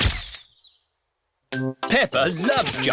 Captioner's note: camera clicks